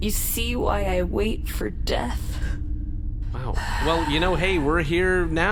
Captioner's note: sighs